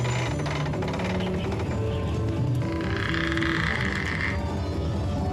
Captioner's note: chimes playing; creaking